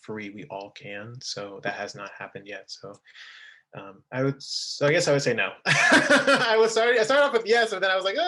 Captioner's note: laughing